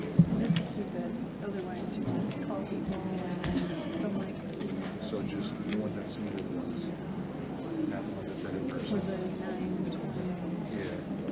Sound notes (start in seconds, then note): 4.3 faintly speaking; 6.3 faintly speaking; 8.3 board member faintly speaking